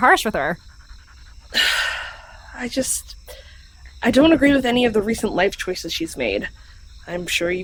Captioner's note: sighs